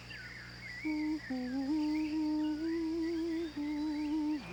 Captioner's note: birds chirping; light humming